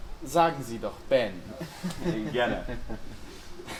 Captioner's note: chuckles